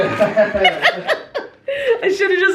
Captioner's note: both laughing